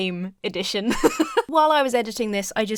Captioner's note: laughs